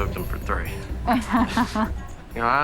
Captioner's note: laughs